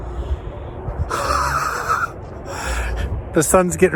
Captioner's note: laughing